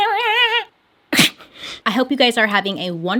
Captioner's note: laughs